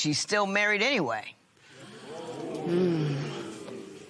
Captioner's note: spectators murmur